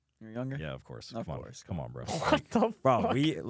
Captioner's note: laughs